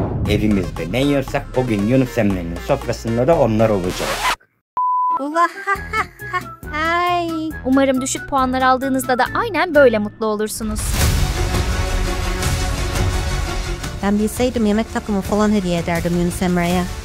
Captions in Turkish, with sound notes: Evimizde ne yiyorsak bugün Yunus Emre’nin sofrasında da onlar olacak! Ula, (gülüyor) Umarım düşük puanlar aldığınızda da aynen böyle mutlu olursunuz. Ben bilseydim yemek takımı hediye ederdim Yunus Emre’ye!